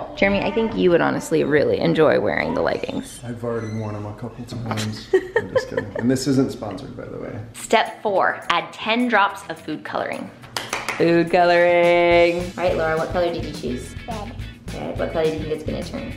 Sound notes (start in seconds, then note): 4.7 laughs; 10.5 clapping